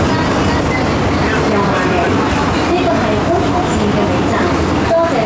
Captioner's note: Cantonese